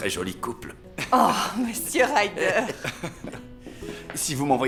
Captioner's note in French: rires